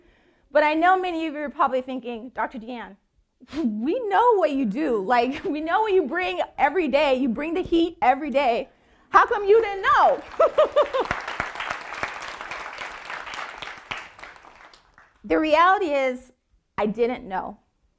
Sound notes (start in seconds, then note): 9.4 audience clapping